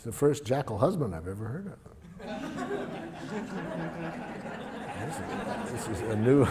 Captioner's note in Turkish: Gülüşmeler